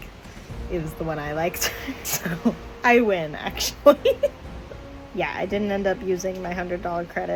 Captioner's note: laugh